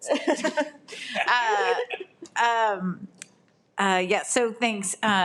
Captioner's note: trustees laugh